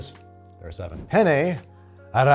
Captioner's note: air whooshes